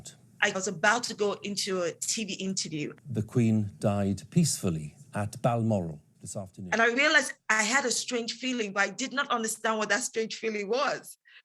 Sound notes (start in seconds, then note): 2.8 soundbite of archived recording